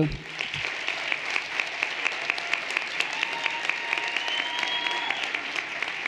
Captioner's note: everyone applauding and cheering